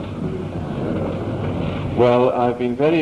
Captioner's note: crowd murmurs in agreement